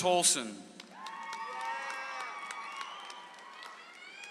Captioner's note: audience applauds